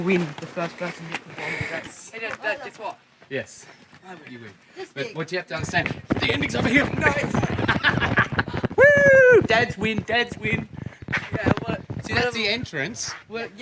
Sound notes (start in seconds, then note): 7.0 laughing